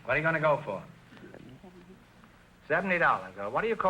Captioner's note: whispering